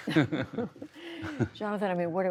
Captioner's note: laughter